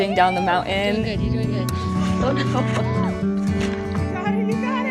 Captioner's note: chuckles